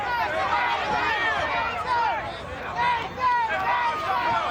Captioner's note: audience chanting